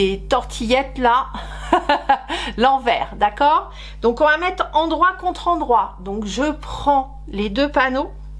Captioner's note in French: rires